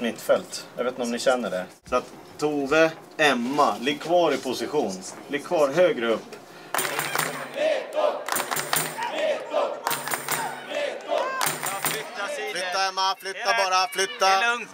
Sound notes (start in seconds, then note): 6.7 crowd cheering